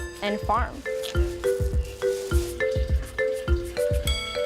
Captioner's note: rocks being pushed around